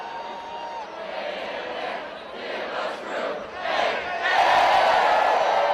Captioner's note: cheers